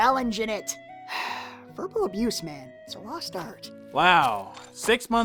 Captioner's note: sighs